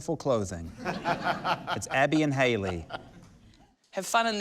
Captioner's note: laughter